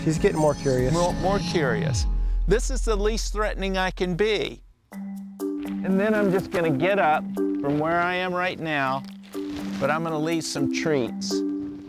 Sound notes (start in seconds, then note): 6.1 bag crackles